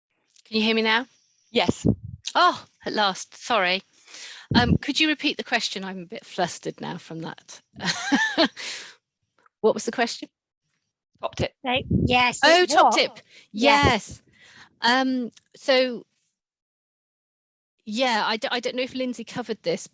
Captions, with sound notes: - Can you hear me now? - Yes. - Oh, at last, sorry. Could you repeat the question. I'm a bit flustered now from that. (laughs) What was the question? - Top tip. - Right, yes. - Oh, top tip. - Yes. - Yes. - So, yeah, I don't know if Lindsay covered this,